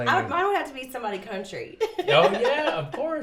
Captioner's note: laughs